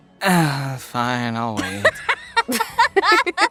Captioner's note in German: seufz